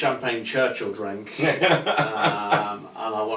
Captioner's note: laughs lightly